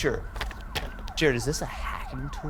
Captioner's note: police sirens blaring